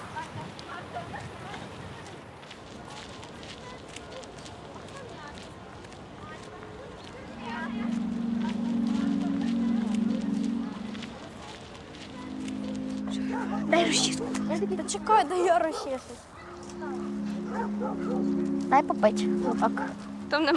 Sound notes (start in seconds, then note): 7.3 inspiring music; 13.1 barking dogs